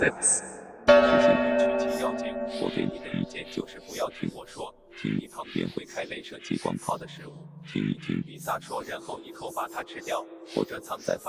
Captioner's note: fortune cookie speaking Mandarin